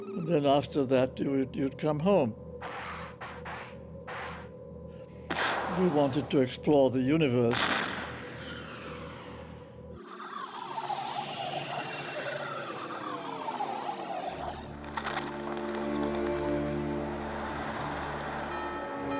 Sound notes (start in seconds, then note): 2.8 gas hissing, small explosion pops; 7.5 explosion pops; 9.9 warbling and screeching; 18.1 bell tolling